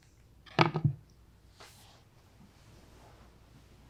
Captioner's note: phone thudding